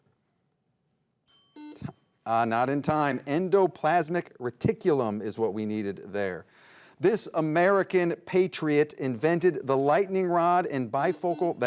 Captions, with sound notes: (bell dings) (buzzer buzzes) Not in time. Endoplasmic reticulum is what we needed there. This American patriot invented the lightning rod and bifocal.